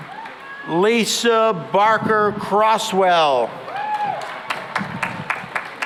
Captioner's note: cheering and applause